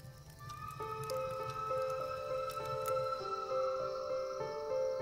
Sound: faint train whistle

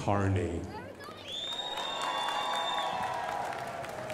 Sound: crowd applauding

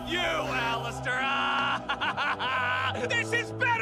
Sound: laughter

